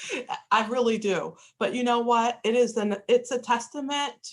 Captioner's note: laughter